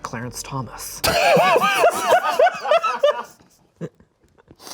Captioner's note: laughs